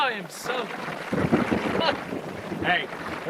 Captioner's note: thunder claps